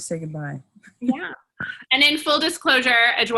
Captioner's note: laughs